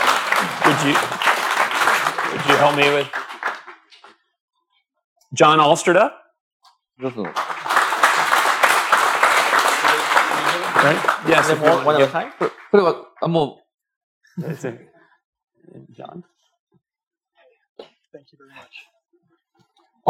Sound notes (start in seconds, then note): 7.0 applause; 15.0 speaking japanese